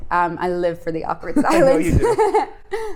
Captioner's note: laughs